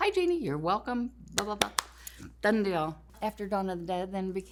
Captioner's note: hands clap